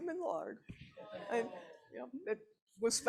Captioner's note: audience groaning